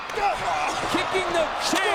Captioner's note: Punk grunts